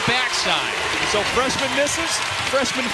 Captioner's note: cheers and applause